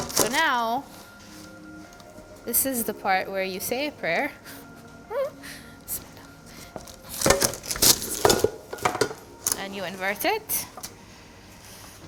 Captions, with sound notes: So now this is the part where you say a prayer (squeals) (whispers prayer in foreign language) and you invert it.